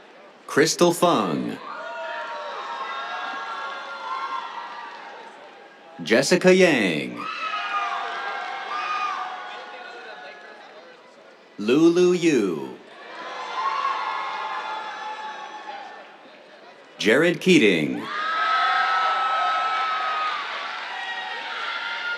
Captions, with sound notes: Kristel Fung. [CHEERS, APPLAUSE] Jessica Yang. [CHEERS] Lulu Yu. [CHEERS] Jared Keating. [CHEERS, APPLAUSE]